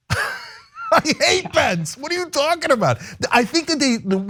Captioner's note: laugh